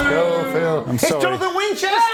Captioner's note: audience boos